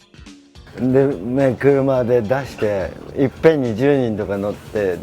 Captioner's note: speaking in foreign language